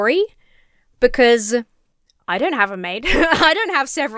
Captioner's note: chuckles